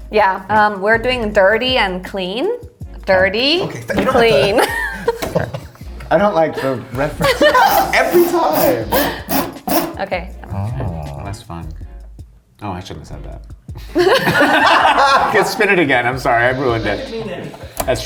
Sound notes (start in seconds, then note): 7.5 wheel cranking; 13.8 all laughing